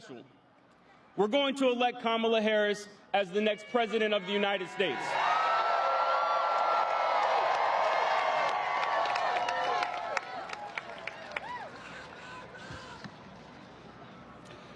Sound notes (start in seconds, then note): 4.4 applause